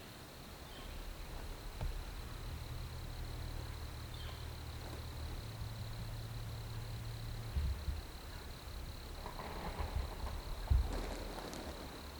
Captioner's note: footsteps heard